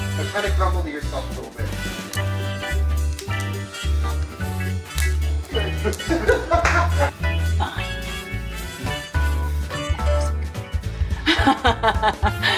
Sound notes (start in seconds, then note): 5.5 people laughing; 11.2 laughing